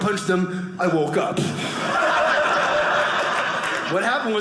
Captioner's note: audience laughing